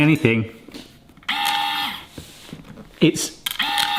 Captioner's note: machine whirring